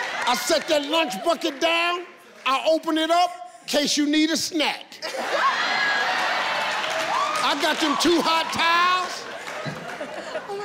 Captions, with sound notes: I set that lunch bucket down, I open it up in case you need a snack! (audience laughing and cheering) I've got those two hot towels!